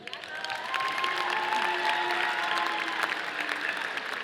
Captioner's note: audience applauding